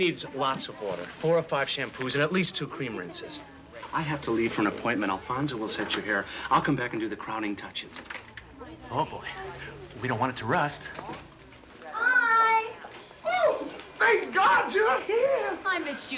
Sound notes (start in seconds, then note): none